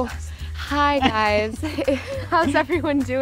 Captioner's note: laughing